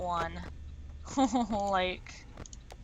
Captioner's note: laughs nervously